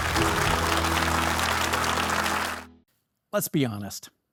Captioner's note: audience applauding